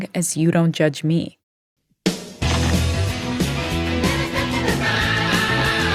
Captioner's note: soundbite of archived recording